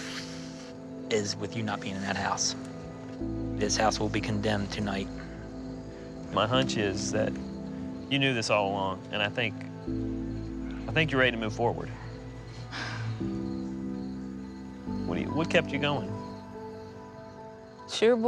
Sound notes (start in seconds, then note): 11.9 sighs